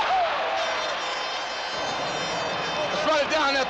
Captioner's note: air horn blares